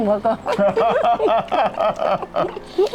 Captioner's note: both laughing